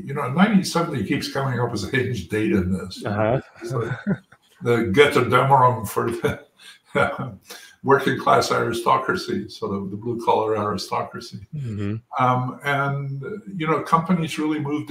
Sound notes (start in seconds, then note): 2.3 laugh; 5.9 laugh